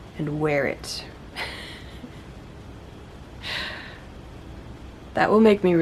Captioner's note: laughs